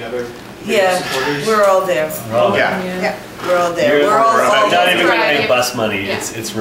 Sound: multiple assents

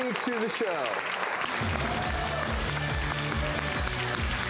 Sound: applause

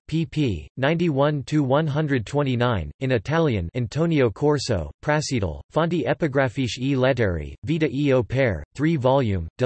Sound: in Italian

